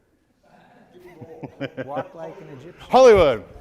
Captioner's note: laughing